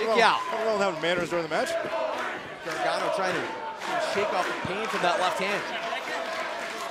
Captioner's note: crowd cheering